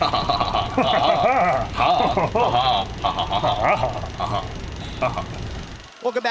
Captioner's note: laughing